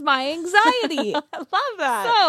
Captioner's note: laughs